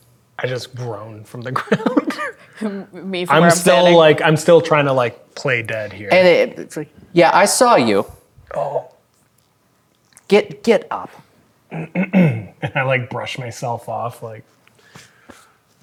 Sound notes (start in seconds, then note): 1.5 laughs; 11.7 clears throat